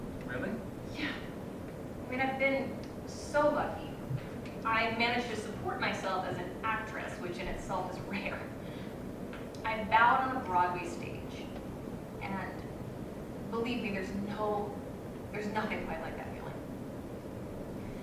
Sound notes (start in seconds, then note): none